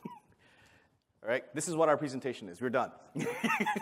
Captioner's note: laughter